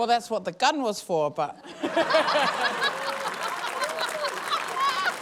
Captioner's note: laughter; laughter, applause